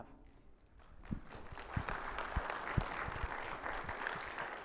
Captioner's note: audience applauding